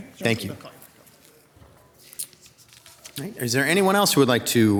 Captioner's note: speaking faintly